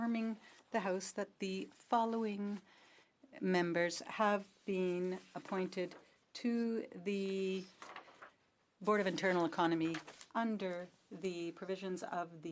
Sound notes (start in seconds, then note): 0.7 speaking French